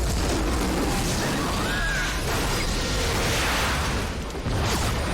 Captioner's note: all scream